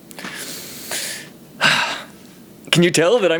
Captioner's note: deep breath